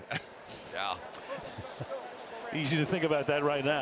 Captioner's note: laughs